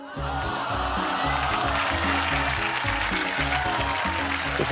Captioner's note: applause